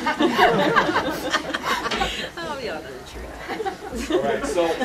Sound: laughter

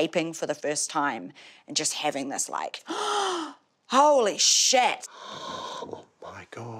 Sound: gasps

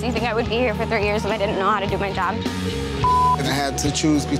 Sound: beep

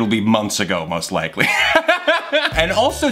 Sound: laughs

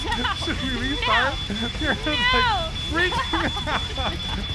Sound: fire alarm continues

